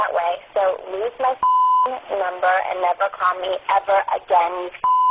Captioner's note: beep